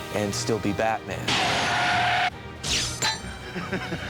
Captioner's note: tires squeal